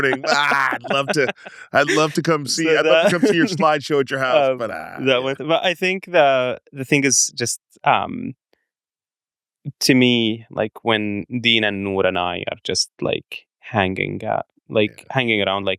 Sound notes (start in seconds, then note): 5.3 laughs